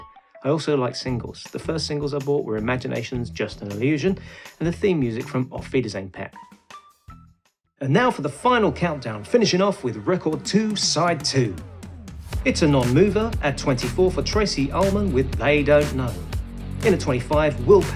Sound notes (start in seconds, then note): 7.6 cheesy DJ Voice